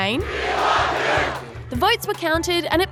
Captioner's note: crowd chants